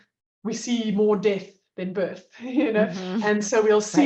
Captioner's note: chuckles